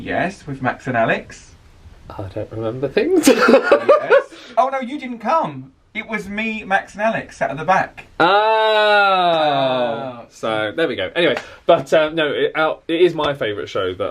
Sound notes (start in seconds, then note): 3.2 laughs